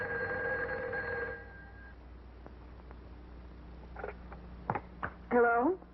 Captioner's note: telephone rings